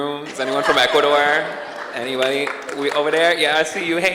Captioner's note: audience cheers and applauds